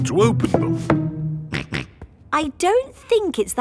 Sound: snorts

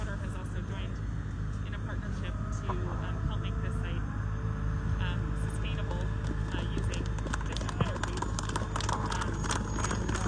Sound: crowd begins to clap

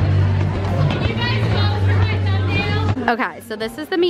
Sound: crowd chatter

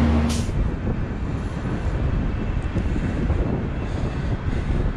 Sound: wind gushing

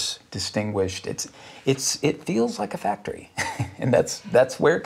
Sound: laughs

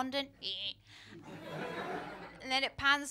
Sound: laughter

